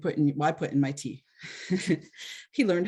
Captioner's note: chuckles